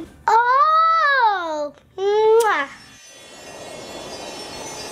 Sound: blowing kiss

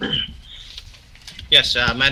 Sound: clears throat

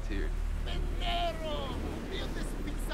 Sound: speaking foreign language

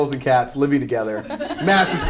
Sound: laughter

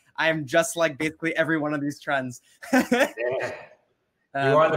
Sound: laughs

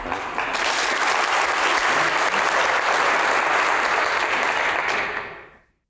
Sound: audience applauding

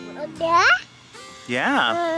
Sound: baby babbling

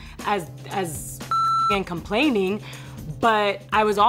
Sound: beep

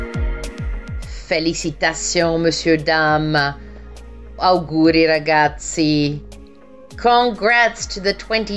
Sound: speaking foreign language

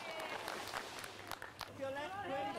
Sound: clapping

